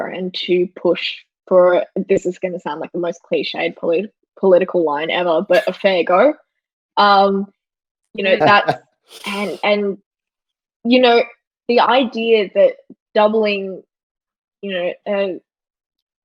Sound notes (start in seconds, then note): 8.3 laughing